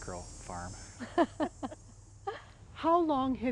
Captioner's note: laughing